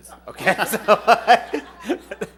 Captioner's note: laughter